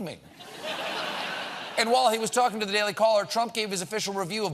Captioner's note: laughter